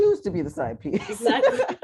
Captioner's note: laughter